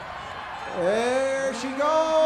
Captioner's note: crowd cheers